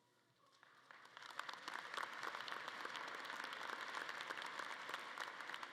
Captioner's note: audience clapping